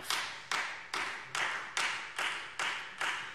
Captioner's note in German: Beifall